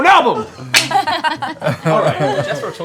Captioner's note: laughter